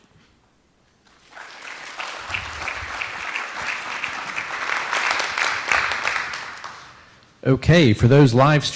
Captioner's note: applause